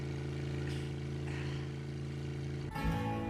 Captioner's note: Bill exhales; upbeat music